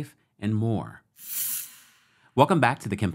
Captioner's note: transition whirs